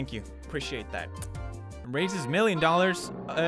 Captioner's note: kiss